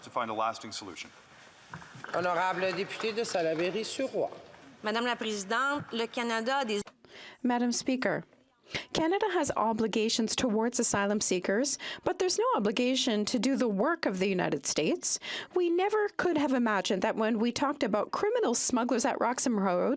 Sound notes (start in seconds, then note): 12.0 speaking French